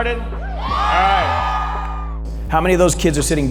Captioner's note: audience cheers